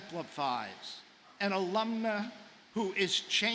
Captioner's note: none